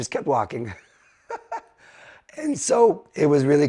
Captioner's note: laughing